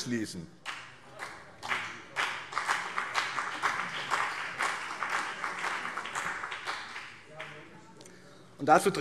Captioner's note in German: Beifall BÜNDNIS 90/DIE GRÜNEN und CDU